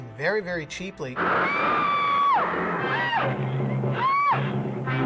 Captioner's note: woman screaming; tense music